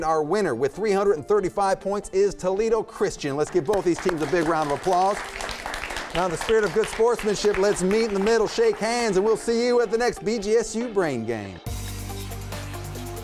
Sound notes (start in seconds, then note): 3.4 applause